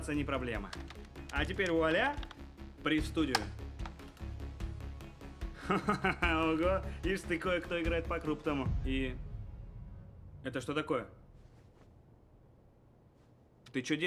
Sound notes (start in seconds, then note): 5.6 laughing